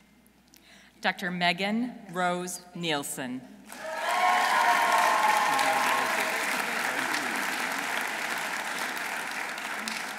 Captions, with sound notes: Dr. Maegan Rose Neilson. -(audience cheering) -(audience applauding)